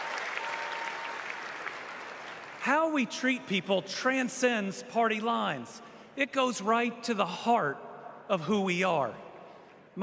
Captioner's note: applause